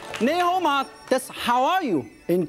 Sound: speaks in foreign language

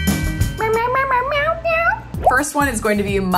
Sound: meowing

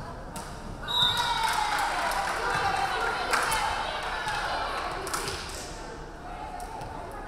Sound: referee whistling; crowd clapping

